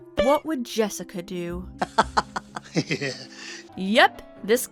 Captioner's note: laughing